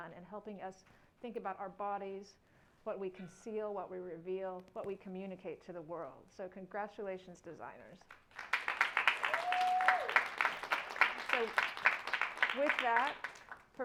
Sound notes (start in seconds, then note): 8.3 audience cheering and applauding